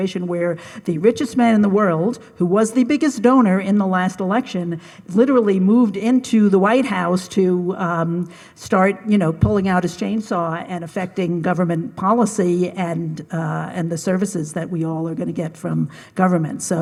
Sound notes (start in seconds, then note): none